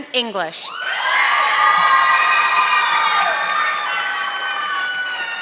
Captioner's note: audience clapping